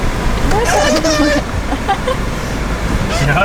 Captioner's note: laughs